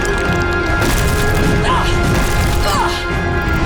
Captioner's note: grunting